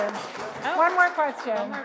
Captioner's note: audience applauds